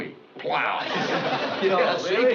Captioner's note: laughs